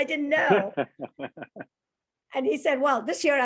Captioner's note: laughter